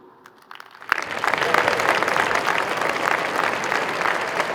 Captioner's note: crowd applauding